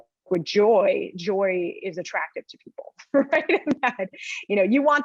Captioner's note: laughs